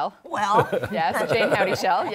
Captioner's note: laughter